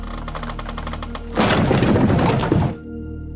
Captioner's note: crash